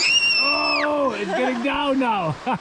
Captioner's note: screaming